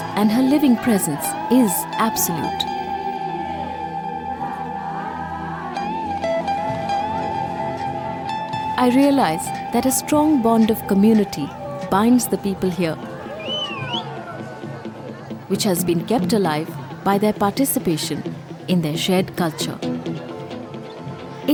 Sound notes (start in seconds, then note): 2.8 soft gentle music; 13.0 whistles; 19.9 intense music